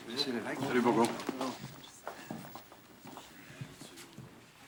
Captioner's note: speaking in French